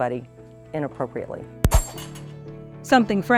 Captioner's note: gun firing